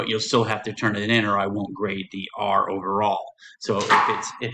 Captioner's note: object falls